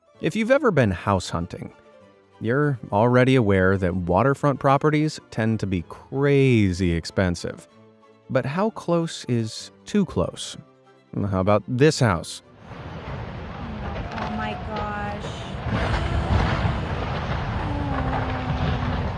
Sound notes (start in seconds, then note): 12.6 river rushing; 15.9 gasping